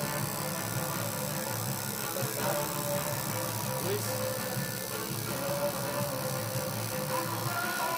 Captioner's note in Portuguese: barulho da máquina de tatuar